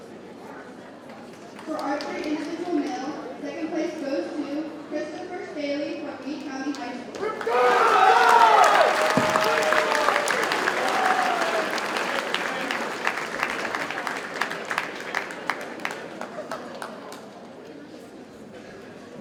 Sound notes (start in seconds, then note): 7.2 audience cheers and applauds